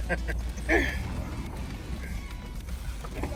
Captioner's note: laughing